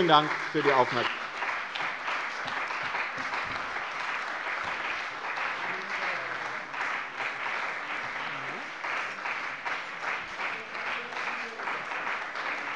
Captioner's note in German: Anhaltender Beifall bei dem BÜNDNIS 90/DIE GRÜNEN und der CDU